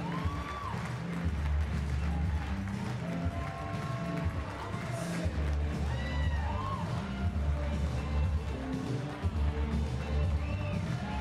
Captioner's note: cheering and Applause